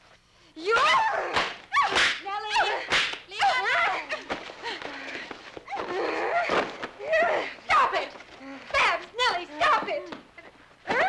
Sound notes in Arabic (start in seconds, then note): 0.7 صراخ